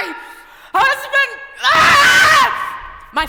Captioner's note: screams